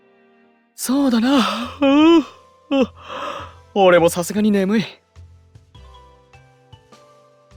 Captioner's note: yawn